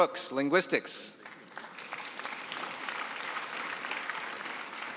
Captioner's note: applause